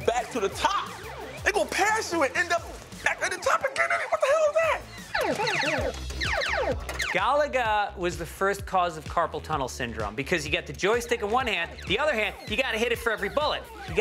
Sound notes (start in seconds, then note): 6.2 arcade sounds